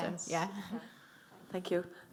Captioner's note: chuckles